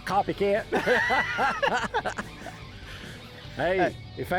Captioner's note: laugh